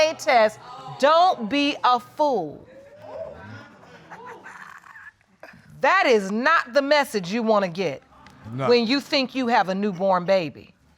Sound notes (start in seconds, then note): 2.4 audience exclaiming; 2.4 laughing